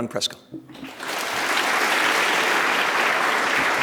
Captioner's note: applause